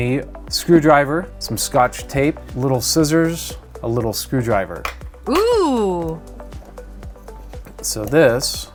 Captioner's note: female voice: Ohhhh